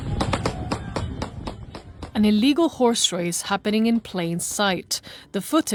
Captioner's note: gunshots